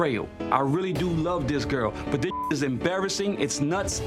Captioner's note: beep